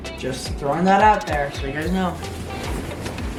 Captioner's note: none